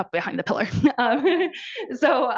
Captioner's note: participant laughs